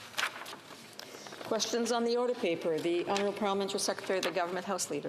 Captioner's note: speaking French